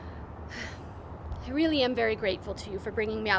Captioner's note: chuckles; sighs